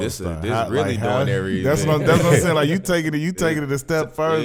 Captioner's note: overlapping chatter